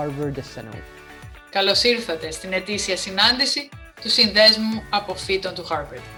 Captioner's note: speaking in foreign language